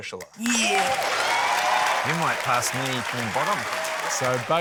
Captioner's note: cheering, applause